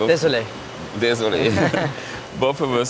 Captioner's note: speak in a foreign language